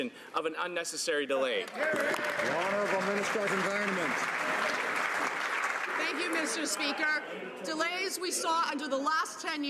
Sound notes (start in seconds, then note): 5.0 some Applause